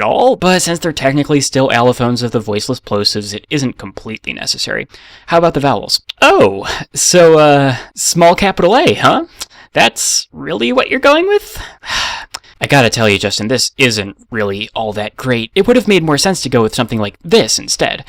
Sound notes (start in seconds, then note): 11.6 sigh